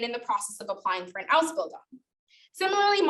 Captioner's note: speaking German